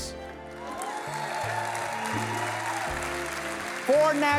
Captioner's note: audience cheering and applause